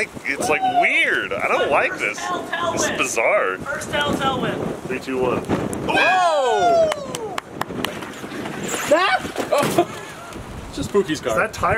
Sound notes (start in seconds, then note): 5.8 whooping; 6.8 clapping; 9.4 laughing